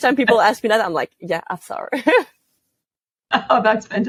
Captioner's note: laugh